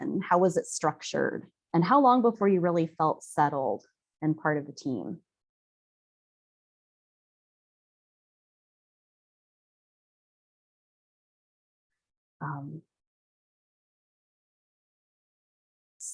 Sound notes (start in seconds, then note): 5.1 no sound - waiting to see comments in chat